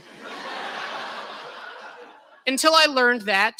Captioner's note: laughter